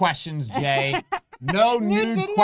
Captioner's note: laughs